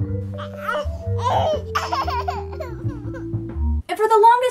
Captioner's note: baby crying